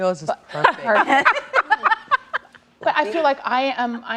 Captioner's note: laughter